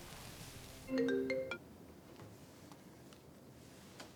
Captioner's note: phone ringing